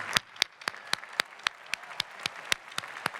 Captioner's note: clapping